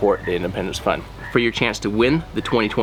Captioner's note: sound of frogs croaking